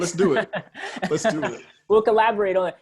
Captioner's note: laughs